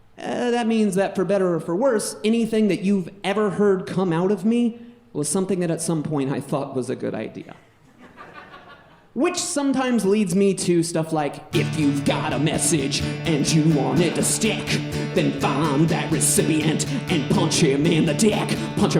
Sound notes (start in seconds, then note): 7.9 audience laughing